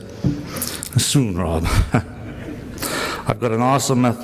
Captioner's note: he laughs